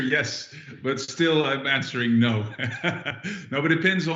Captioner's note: laughing